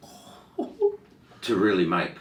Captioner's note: gasping; laughing